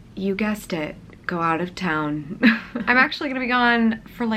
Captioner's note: chuckles